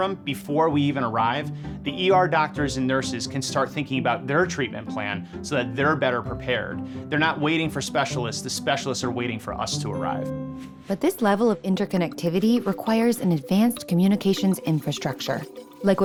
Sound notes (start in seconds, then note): 10.9 voiceover